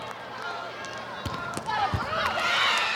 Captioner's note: players shouting indistinctly; ball thumping; audience cheering